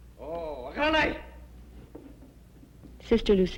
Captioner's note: speaking japanese